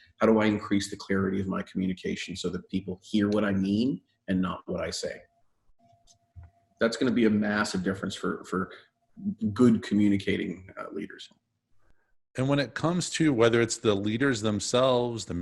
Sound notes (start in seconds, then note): none